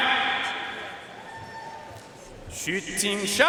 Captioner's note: audience cheering and applauding